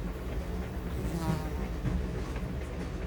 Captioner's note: flies buzzing